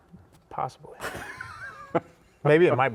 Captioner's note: laughs